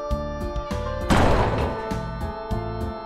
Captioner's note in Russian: Бдыщ!